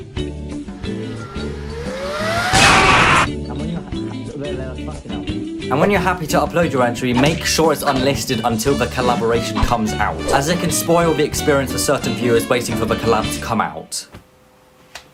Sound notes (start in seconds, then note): 0.8 computer starts Overworking itself; 0.8 Explosion - cuz YTP